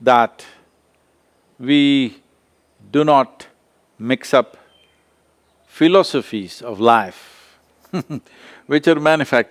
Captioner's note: laughs